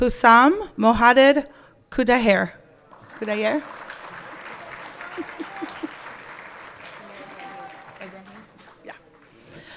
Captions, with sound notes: Husam Muhadir Khudhayr. (everyone clapping)